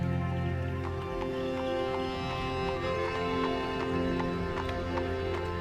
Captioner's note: horse hooves clomping